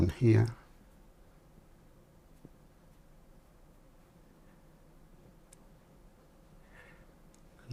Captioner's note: silence